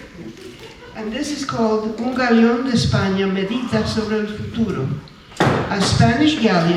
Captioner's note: speaking spanish